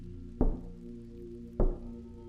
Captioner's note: knock